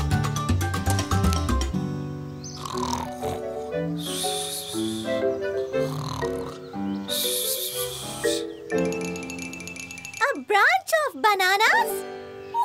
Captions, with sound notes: *Snores* *Snores* A branch of bananas!